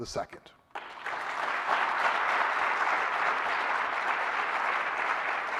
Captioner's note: audience applauding